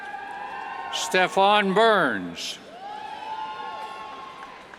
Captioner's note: cheers